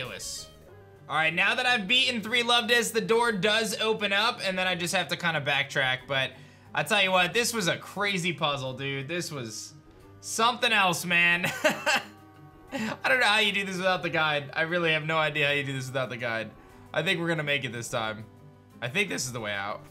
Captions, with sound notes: All right. Now that I've beaten three Luvdiscs, the door does open up, and then I just have to kind of backtrack. But I'll tell you what, this was a crazy puzzle, dude. This was something else, man. (laughs) I don't know how you do this without the guide. I really have no idea how you do this without the guide. I think we're going to make it this time. I think this is the way out.